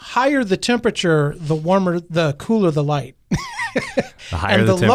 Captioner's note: laughs